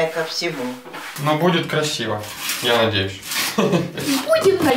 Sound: laughs

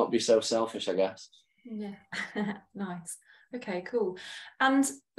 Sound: chuckles

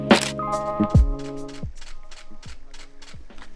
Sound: camera shutter sounds

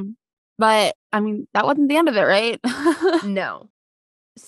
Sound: laughs

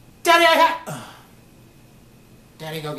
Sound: sighs

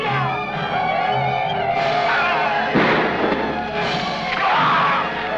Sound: warrior shouts; Yaqui shouting; gunshots blasting; man groaning

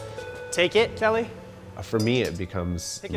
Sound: tools clatter

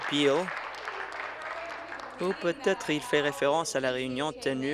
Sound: applause

